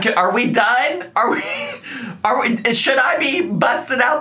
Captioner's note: man chuckling